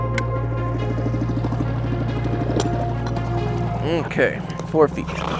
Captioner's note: boat engine droning; pensive music continues